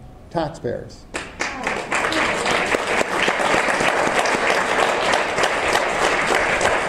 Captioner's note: audience applause